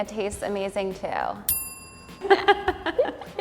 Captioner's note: bell dinging; laughing